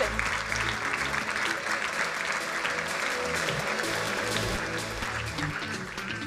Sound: crowd applauding; energetic music; upbeat music

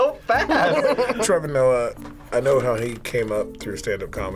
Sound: laughs

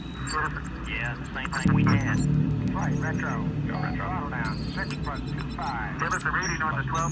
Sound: mission chatter

